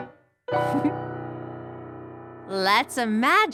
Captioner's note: giggles